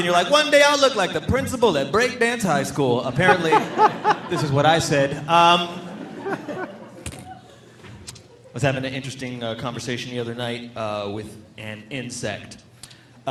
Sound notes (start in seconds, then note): 6.1 audience laughing